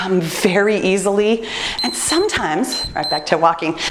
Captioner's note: timer beeps